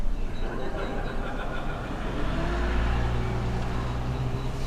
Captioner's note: muffled laughter from within the hall